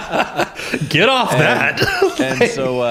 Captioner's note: laughter